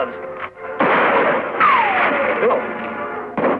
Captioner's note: gunshot fires